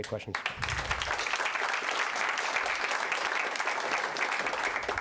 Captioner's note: applause